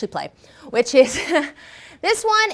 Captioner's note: chuckles